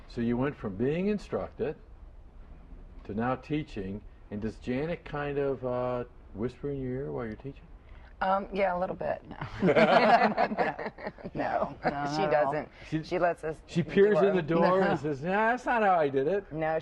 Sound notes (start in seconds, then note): 9.4 laughter